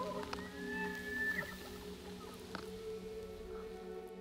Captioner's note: elk noise